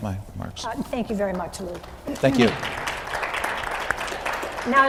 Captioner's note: clapping